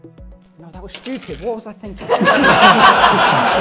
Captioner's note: laughter